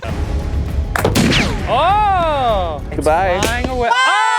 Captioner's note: dramatic action music; pew